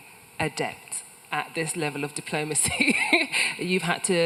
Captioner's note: laughs